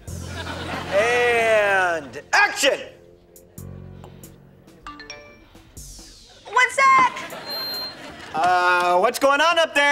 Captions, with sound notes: And action. [phone chiming] One sec. Uh... what's goin' on up there?